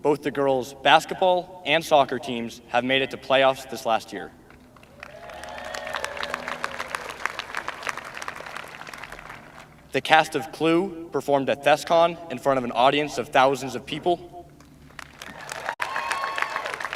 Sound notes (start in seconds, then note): 11.4 applause